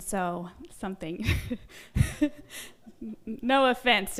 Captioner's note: laughs